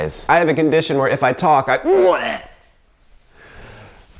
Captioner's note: gagging